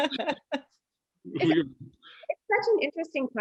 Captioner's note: laughs